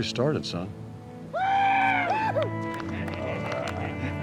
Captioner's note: cheering